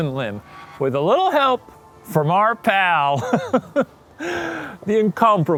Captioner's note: laughs